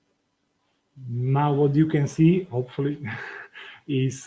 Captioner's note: laughs